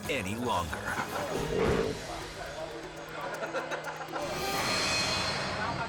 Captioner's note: orangutan snarling